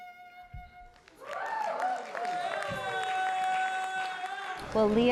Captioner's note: applause